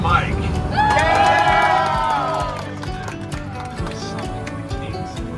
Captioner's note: passengers loudly applauding